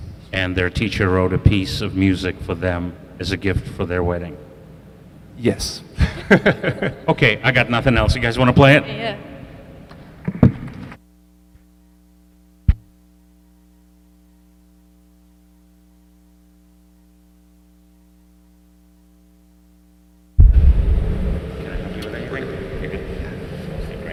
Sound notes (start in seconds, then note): 6.0 laughs; 6.0 audience laughs